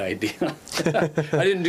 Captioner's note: both laugh